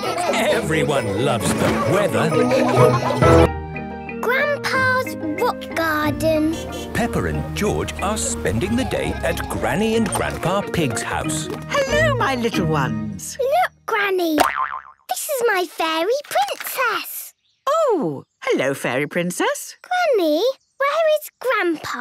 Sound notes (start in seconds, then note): 14.4 boing!